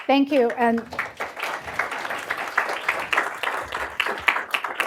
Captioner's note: applause